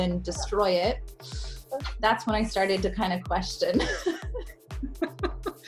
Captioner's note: laughs